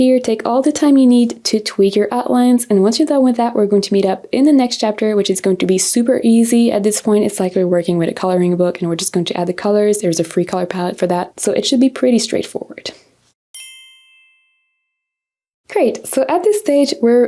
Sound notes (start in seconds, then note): 13.5 text dings